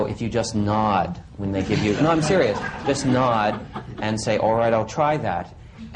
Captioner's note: laughter